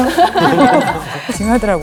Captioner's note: laughing